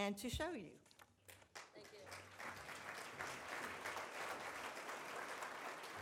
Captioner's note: audience applauds